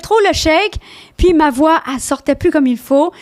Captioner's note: in french